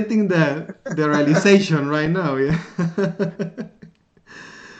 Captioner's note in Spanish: Risas